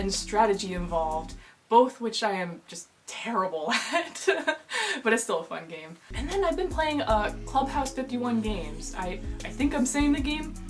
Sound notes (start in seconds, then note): 3.7 laughter